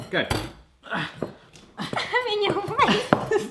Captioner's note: slams; grunting